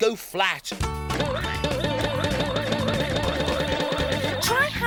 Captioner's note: hammer banging quickly